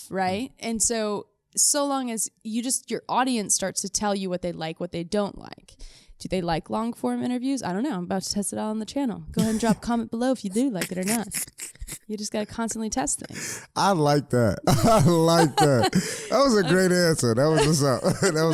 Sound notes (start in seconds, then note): 10.6 laughs; 14.6 both laughing